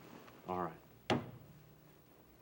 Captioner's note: slaps hand on table